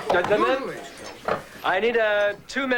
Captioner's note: slapping on counter